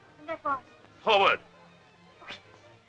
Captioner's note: chuckle